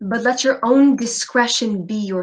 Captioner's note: none